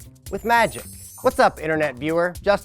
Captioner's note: chimes ringing